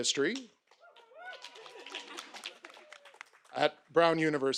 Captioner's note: audience applauding